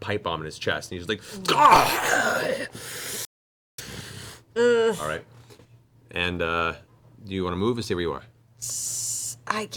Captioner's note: gasping roar of pain